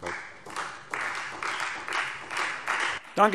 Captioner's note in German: Beifall Freie Demokraten